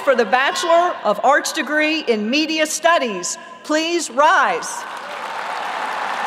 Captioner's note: applause